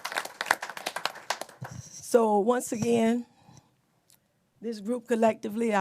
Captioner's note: applause